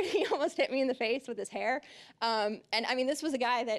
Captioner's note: chuckling